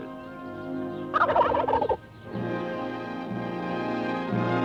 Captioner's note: gobbling